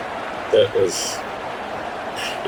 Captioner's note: crowd Noises